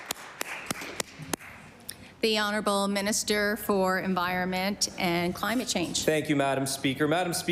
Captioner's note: applause